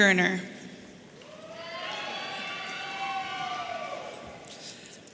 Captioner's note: audience cheering